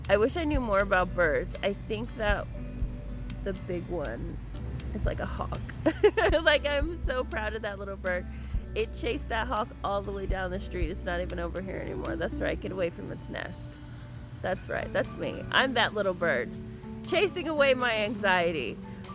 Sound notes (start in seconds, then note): 5.8 laughs